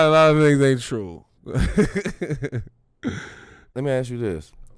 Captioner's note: laughs